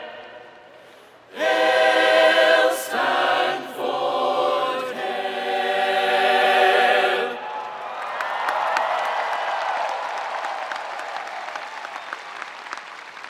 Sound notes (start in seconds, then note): 7.3 spectators cheering; 9.8 spectators applauding